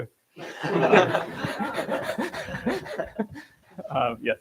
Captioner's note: laughter